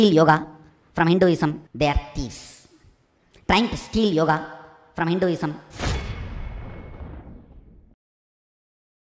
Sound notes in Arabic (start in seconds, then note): 5.7 مُؤَثِّرَات صَوْتِيَّة